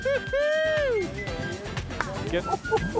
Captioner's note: speaking Spanish